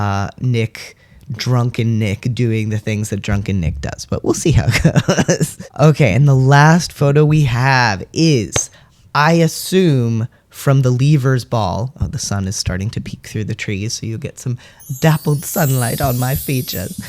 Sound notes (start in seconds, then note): 5.8 laugh